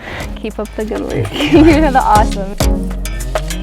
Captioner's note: laughing; upbeat pop music